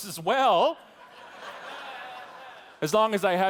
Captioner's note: audience laughing